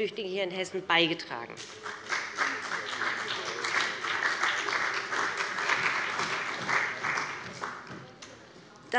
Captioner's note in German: Beifall bei dem BÜNDNIS 90/DIE GRÜNEN und der CDU